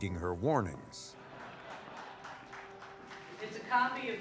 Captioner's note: crowd laughing